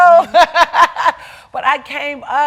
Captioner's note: laughing